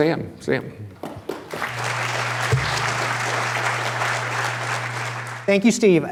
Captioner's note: applause